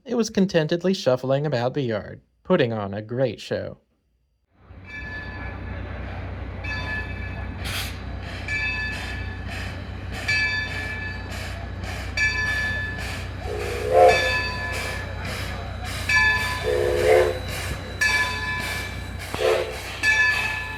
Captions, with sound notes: it was contentedly shuffling about the yard - putting on a great show! (whistle) (another whistle) (smol whistle)